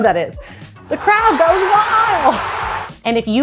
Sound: crowd cheering

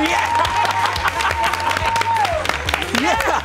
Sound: cheers, applause

